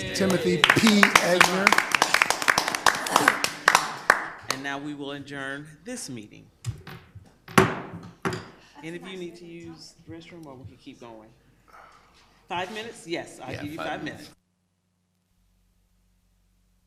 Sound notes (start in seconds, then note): 0.0 people clapping; 6.8 gavel banging